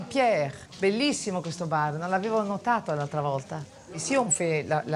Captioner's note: speaks in Italian